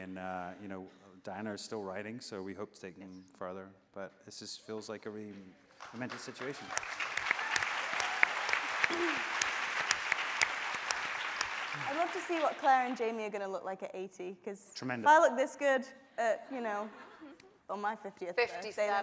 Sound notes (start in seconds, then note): 6.4 audience cheering